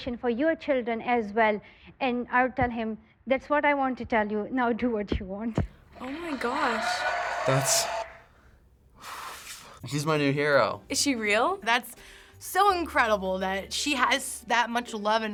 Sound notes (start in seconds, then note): 5.9 audience cheers and applauds; 9.3 exhales